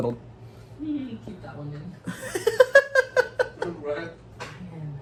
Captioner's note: laughs; laughter